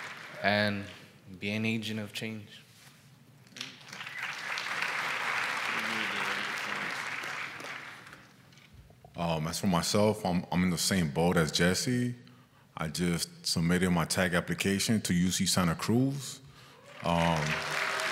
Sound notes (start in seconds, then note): 3.6 applause; 16.8 applause